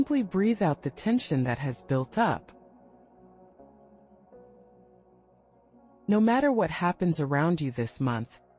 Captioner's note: pause